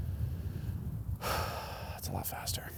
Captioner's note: gasps